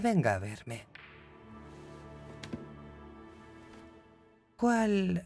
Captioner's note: balls cracking